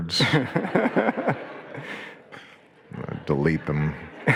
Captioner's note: audience laughing